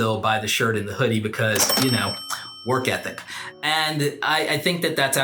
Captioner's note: cash register dings